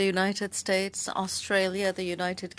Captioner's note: speaking French